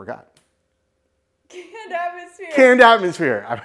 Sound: laughing

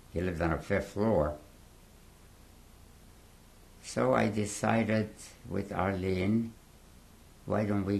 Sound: pauses for 3 seconds

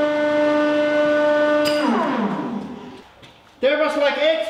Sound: machinery powers down

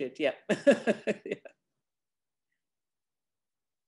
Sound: laughs

